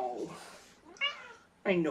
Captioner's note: meows